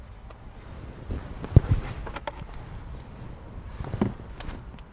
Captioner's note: object clattering